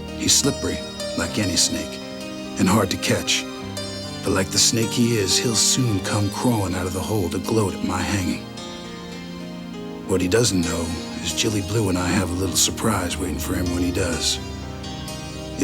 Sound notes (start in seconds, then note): none